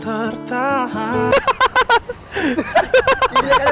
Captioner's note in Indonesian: ketawa